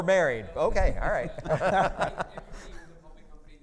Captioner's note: laughing